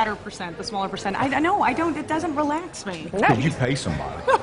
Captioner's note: laughter